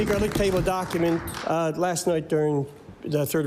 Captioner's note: applause